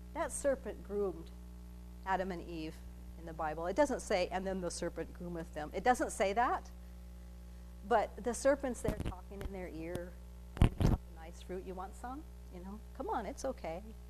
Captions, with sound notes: That serpent groomed Adam and Eve in the bible. It doesn't say and the serpent groometh them, it doesn't say that. But the serpent's there talking in their ear. (audio cutting out) you want some? Come on, it's okay.